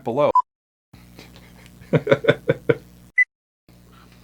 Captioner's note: laughter